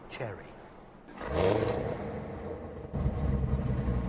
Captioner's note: engine roars